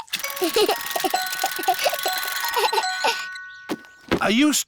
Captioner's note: alexander giggles